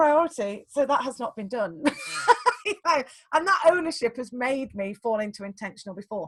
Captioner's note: laughs